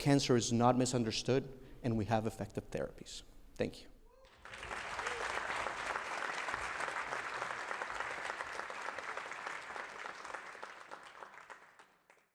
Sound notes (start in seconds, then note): 4.2 applause